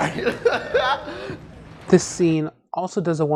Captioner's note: chuckles